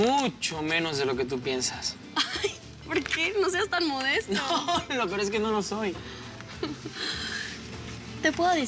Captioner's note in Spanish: Risas